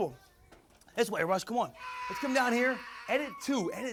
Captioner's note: continues screaming